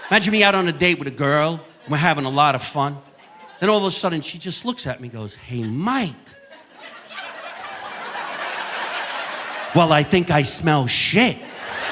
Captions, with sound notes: Imagine me out on a date with a girl and we're having a lot of fun. Then all of a sudden she just looks at me and goes, "Hey, Mike." (audience laughing) "Well, I think I smell shit."